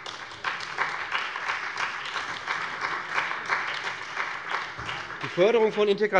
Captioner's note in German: Beifall bei dem BÜNDNIS 90/DIE GRÜNEN und der CDU